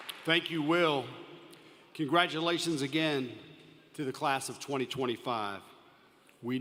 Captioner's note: applause